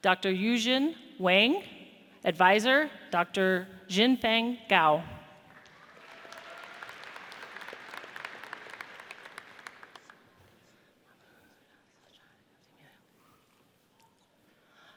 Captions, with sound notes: Dr. Yijun Wang. Advisor, Dr. Xinfeng Gao. (audience cheers)